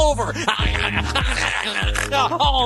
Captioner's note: imitating weasels